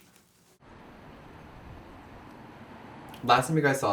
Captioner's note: traffic